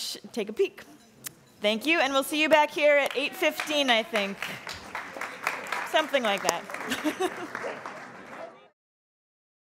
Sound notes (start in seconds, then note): 3.0 applauding; 6.6 laughs